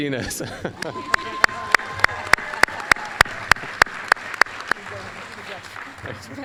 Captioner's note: applause, cheering